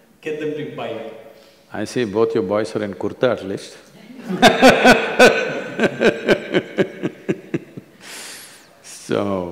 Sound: laughter

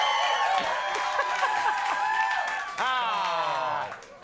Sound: Conan chuckling

